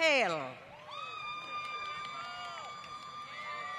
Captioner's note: applause